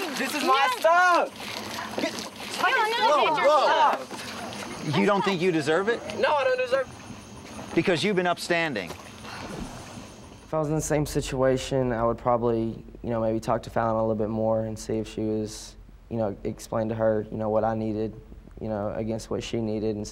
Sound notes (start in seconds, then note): 2.7 chatter